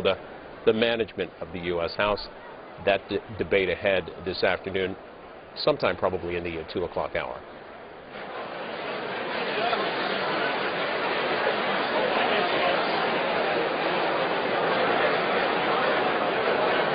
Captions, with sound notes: THE 2:00 HOUR. [CROWD NOISE]